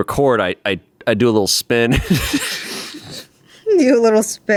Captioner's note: laughs